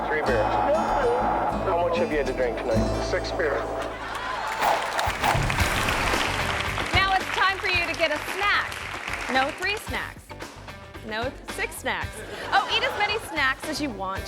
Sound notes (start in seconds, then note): 3.9 audience laughing; 4.7 audience cheering